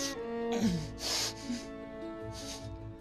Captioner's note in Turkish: Nefes sesi